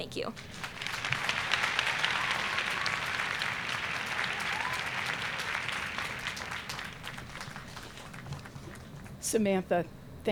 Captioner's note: applause